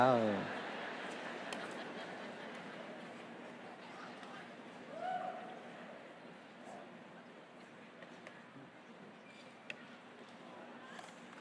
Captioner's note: crowd "aww"